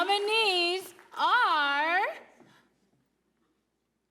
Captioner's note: applause